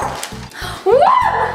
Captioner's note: bowl clanking